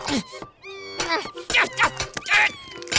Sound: grunting

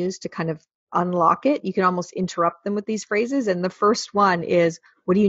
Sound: none

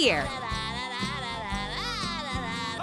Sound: humming

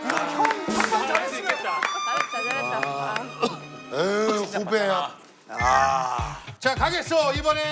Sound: sighs

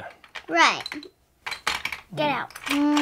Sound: voiceover

